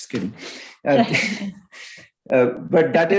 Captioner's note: everyone chuckles